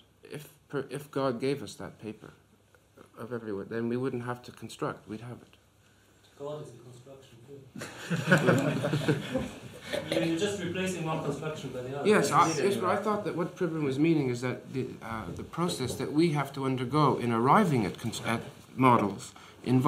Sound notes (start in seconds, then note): 11.3 laughter